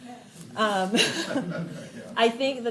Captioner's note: and participant laughs